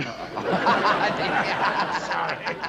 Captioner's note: laughing